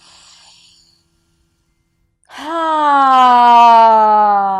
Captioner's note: sighs loudly